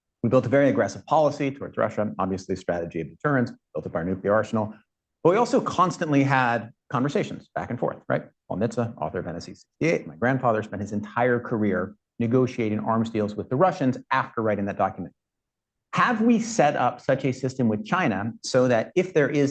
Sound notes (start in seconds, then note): none